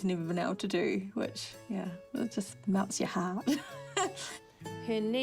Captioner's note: laughs